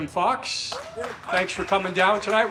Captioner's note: audience claps and cheers